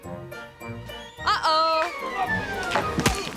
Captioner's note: pole crashing